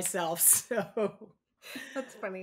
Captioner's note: laughs